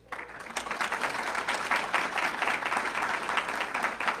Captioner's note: audience clapping